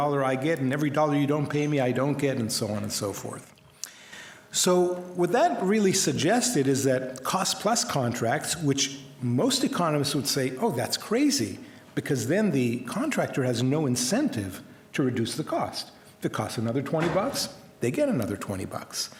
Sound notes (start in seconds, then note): none